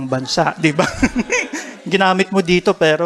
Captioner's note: laughter